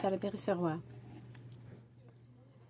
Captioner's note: speaking French